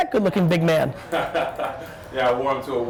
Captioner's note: laughter